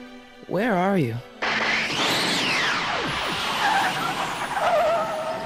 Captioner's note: tires screeching; whirring